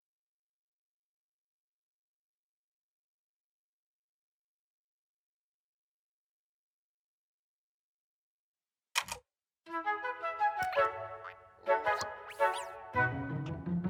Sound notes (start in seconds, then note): 8.9 click; 10.3 caterpillar noises